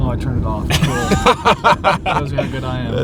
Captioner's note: men laughing